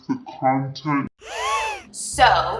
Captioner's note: gasps